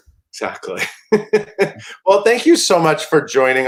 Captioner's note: laughs